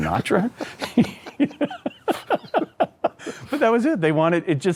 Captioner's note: both laugh